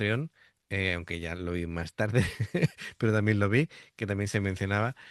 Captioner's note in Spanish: risas